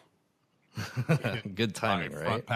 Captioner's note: chuckle